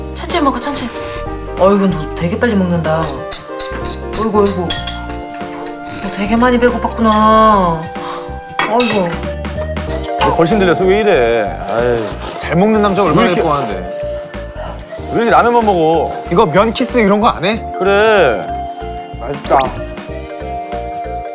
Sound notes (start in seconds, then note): 11.6 slurrrp